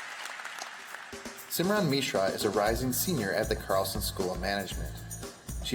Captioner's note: cheers & Applause